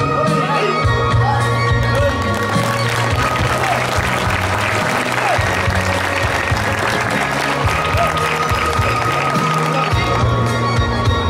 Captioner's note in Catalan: Aplaudiments